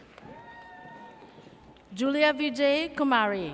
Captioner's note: audience cheers